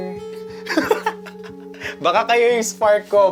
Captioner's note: laughs